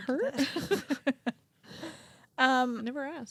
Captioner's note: both laughing